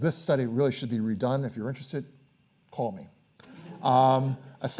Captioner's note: audience laughing